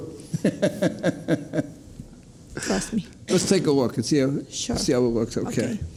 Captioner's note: laughs